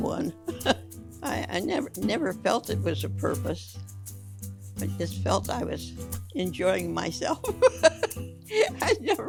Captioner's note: laughs